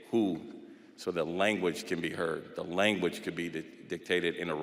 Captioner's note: none